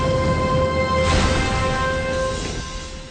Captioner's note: crash